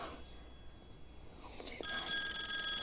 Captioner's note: telephone ringing